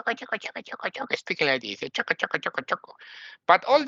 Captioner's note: imitates foreign language